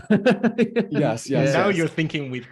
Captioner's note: laughing